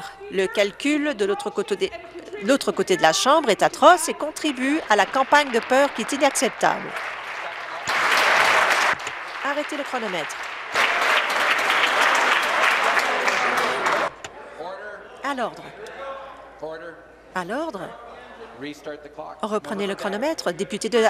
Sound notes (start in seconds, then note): 8.6 applause